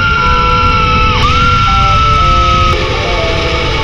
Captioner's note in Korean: 으악